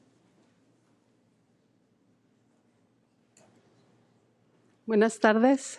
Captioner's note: speaking in foreign language